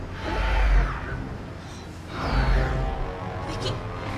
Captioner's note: creature screeches